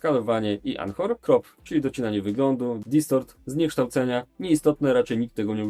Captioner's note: distortion